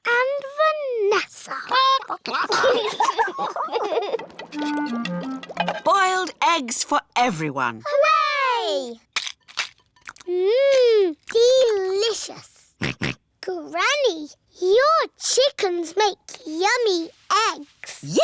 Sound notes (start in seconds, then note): 1.7 children giggle; 1.8 chickens chatter; 12.1 george oinks